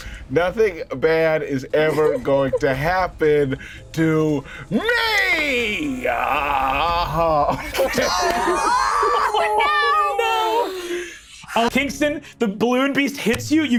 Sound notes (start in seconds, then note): 5.8 Lou groans; 7.2 group laughing